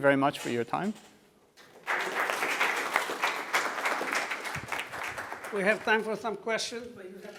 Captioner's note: applause